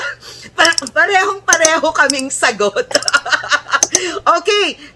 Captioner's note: laughter